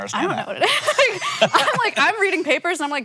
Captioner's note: both laugh